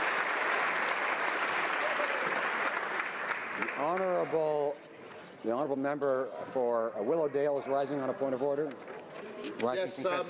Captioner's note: applause